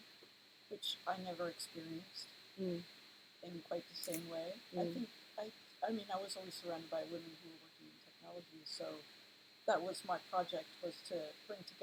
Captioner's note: sound of people moving chairs